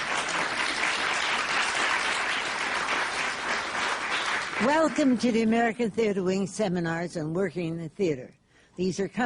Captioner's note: applause